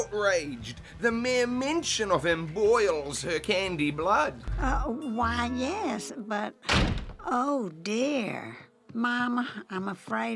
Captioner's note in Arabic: صوت إغلاق الباب